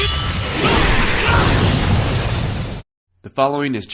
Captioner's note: shouts and clanging